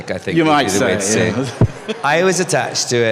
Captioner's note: laughter